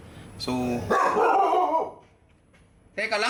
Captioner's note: doggo barks